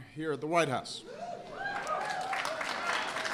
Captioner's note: applause